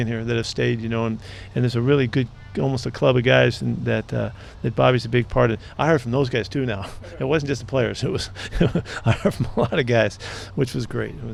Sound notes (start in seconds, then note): 6.6 chuckles; 6.6 laughs